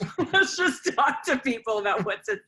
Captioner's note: laughter